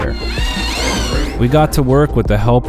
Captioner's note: drilling